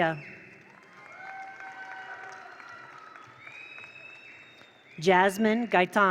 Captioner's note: attendees cheer; attendees applaud